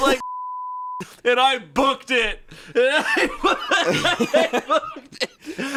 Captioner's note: beep; laughs